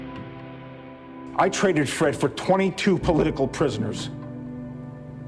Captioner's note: voiceover